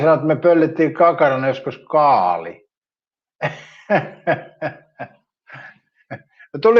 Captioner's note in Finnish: naurua